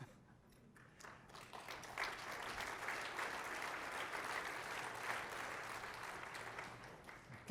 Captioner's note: applause